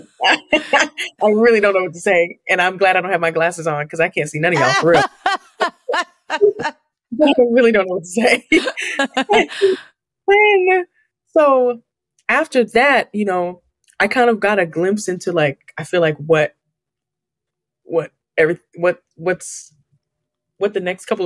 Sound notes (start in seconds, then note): 0.0 laughs; 4.5 laughs; 8.3 laughter